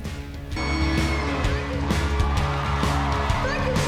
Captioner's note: cheering